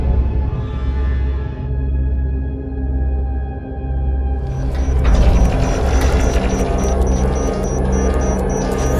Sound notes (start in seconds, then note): 0.1 somber music; 4.4 alarm blares